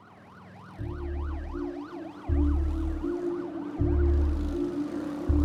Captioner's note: siren blaring